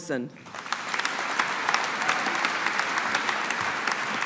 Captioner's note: audience applauding